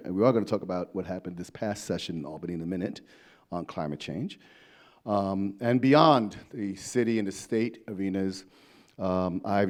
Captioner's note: none